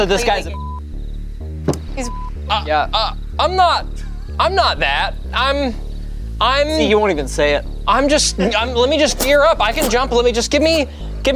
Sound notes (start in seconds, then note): 1.7 beeps